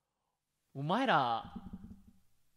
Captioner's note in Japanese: マイクにぶつかる音